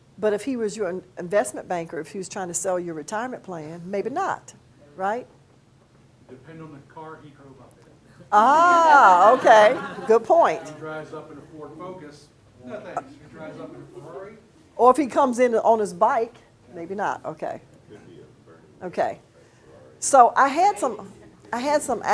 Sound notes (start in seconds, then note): 8.5 students laugh